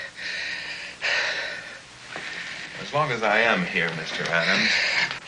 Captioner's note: panting